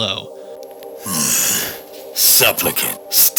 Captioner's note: Agent Q groans